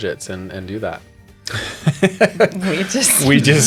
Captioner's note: laughter